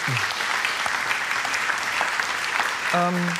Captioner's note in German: Applaus